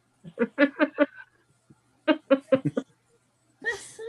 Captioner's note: laughing